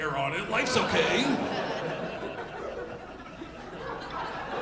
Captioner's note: audience laughing